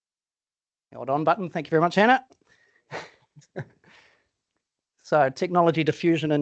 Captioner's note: chuckles